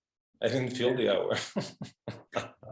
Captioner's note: laughing